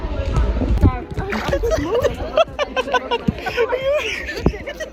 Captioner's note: laughing